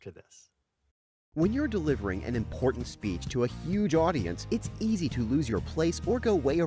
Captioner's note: voiceover